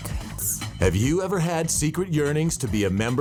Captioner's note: ghostly Female Voice